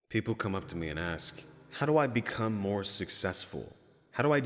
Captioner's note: echoing in the darkness